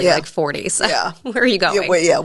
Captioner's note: laughs